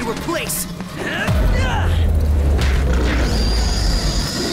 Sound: wincing

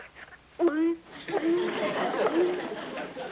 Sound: makes drunk sound

